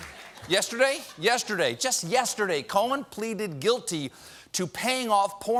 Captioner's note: laughter